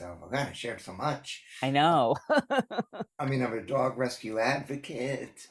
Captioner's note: laughs